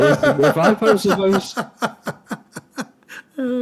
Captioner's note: Ketawa